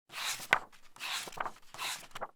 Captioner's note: pages turning